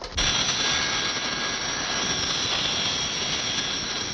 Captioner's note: plane whirring